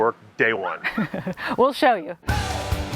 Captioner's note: chuckles